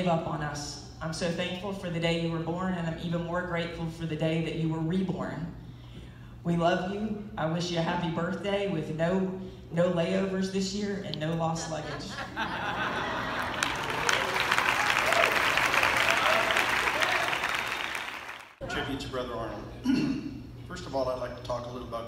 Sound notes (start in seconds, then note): 11.6 laughter